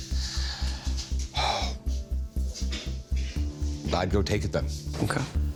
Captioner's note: sigh